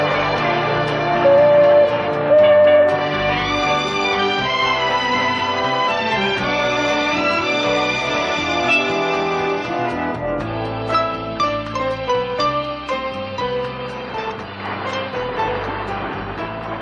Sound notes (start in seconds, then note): 2.7 shop horn honking; 13.3 light music continues